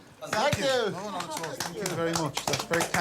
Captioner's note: clapping